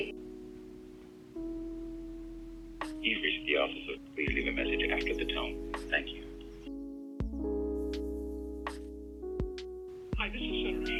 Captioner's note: audio from the phone